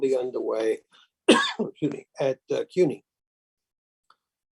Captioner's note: coughs